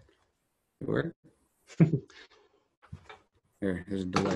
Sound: laughing

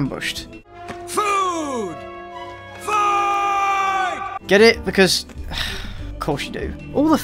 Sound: sigh

